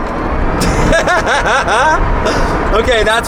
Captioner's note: laughing